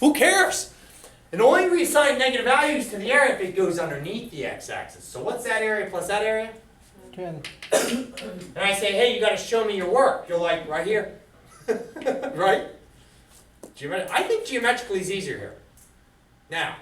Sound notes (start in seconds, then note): 11.4 laughter